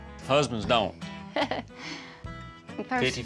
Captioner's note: chuckles